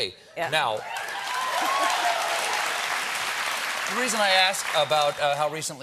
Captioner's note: cheers and applause